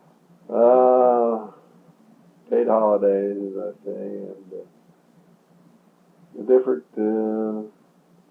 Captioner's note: both laugh